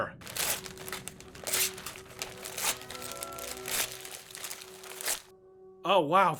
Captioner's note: gift unwrapping sounds